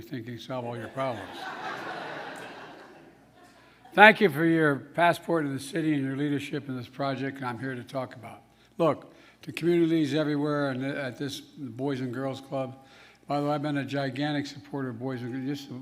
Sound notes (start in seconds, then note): 2.3 laughter